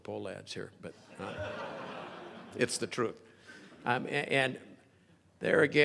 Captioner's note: crowd laughing